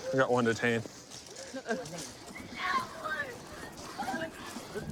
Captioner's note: yelling